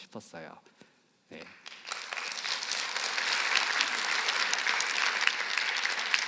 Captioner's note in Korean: 박수